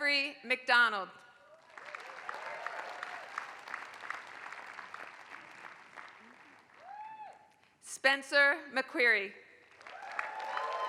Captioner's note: applause; applause